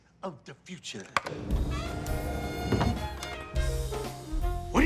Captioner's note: button clicks